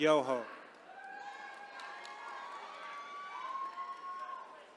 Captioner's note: attendees cheering